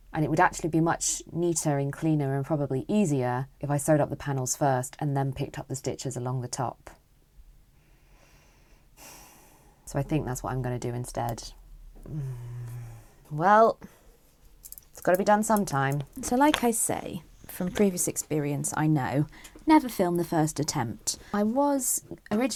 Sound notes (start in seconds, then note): 9.0 sigh; 12.0 dissatisfied hmmmmm